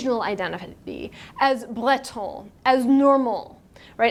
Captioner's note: speaking in foreign language